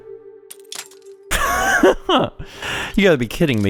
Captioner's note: laughs